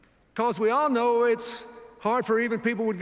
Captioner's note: none